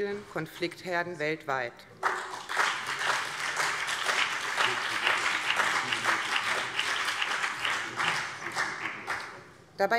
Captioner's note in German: Beifall BÜNDNIS 90/DIE GRÜNEN und vereinzelt CDU